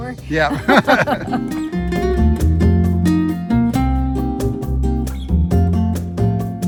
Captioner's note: bright music; laughing